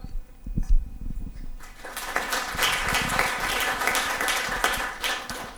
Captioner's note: audience applause can be heard